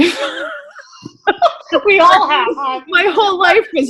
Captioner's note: laughing